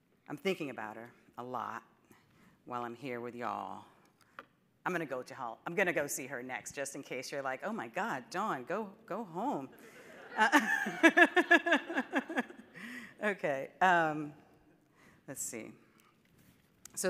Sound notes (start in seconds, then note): 9.8 audience laughing